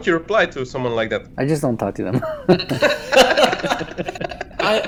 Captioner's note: laughs